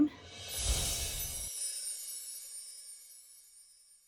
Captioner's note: logo tinkling